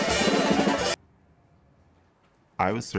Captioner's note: drums stop, silence